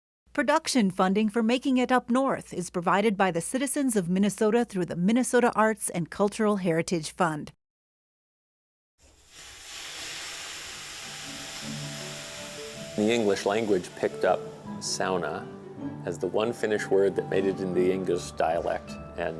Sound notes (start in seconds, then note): 9.0 hissing sound; 11.7 background upbeat music